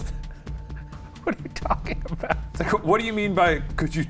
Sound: laughing

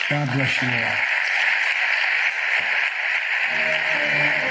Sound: crowd applauding; band playing

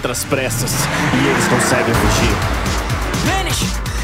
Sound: noise of car accelerating

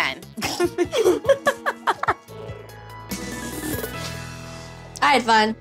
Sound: laughter

